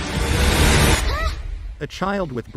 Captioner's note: child yelps in fear